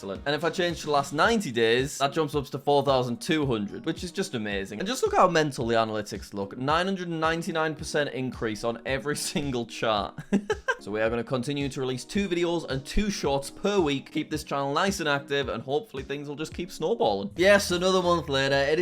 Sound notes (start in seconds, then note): 10.1 chuckles